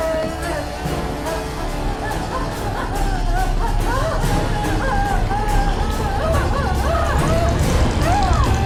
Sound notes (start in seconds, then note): 4.8 sobbing